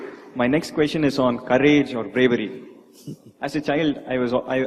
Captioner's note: Sadhguru laughs